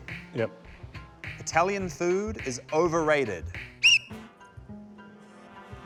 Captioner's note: whistle blows